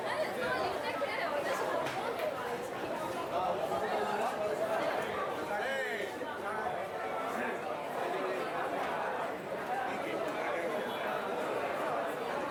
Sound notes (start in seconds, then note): 3.4 indistinct chatter